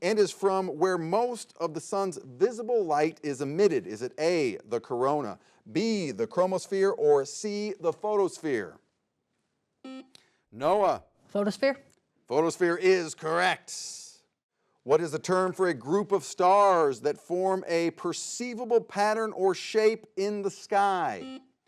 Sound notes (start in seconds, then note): 9.8 buzzer beeps; 21.1 buzzer beeps